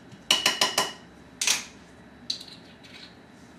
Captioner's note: spoon taps